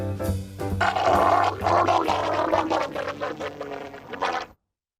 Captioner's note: Frank gargling loudly